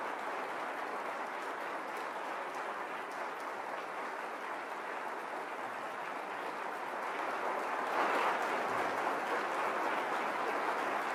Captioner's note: applause